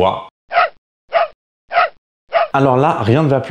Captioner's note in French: Aboiements